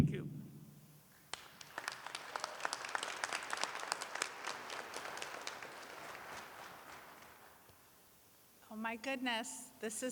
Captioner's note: applause